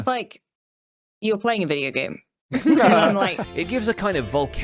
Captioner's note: group laughs